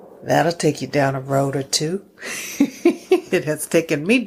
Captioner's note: laughs